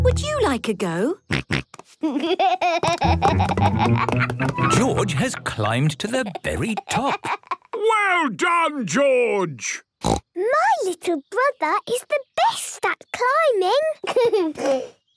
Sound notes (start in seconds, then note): 1.9 snorts, giggles; 10.0 snorts